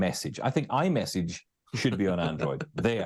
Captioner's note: laughing